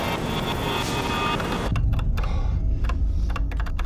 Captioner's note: typing sound